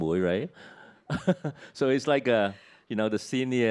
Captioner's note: chuckles